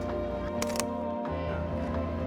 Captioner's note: snap